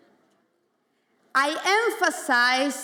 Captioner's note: none